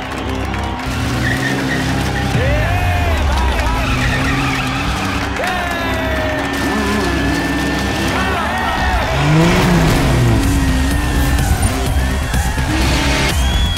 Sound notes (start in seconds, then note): 8.2 cheering; 9.8 crowd Cheering